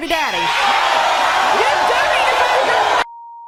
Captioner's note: audience yelling